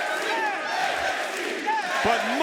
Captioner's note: crowd chanting